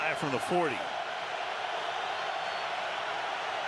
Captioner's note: crowd cheering